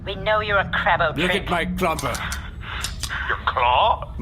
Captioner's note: claw-clicking noises